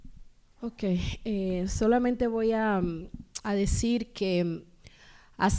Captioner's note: speaking spanish